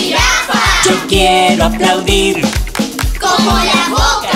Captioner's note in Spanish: Sonido de aplauso